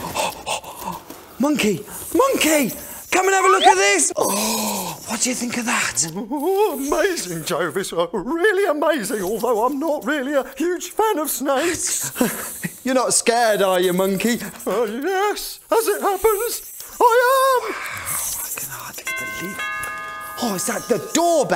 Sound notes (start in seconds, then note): 8.2 sounding a little scared; 19.0 the doorbell goes AGAIN!